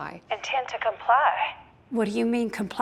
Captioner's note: on phone